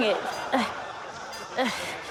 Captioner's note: grunts